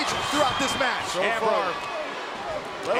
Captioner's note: crowd roars